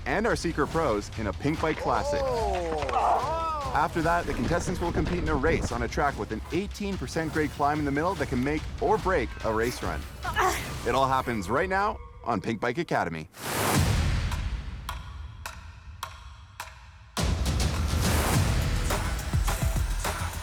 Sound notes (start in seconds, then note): 1.8 everyone groans; 10.2 woman grunts; 13.7 upbeat hip hop music begins